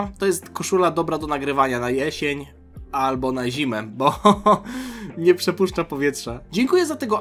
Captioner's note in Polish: śmiech